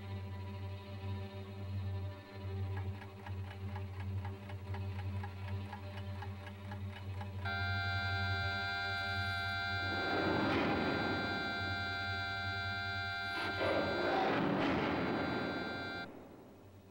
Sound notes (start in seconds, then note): 7.4 alarm